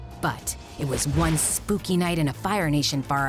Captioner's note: none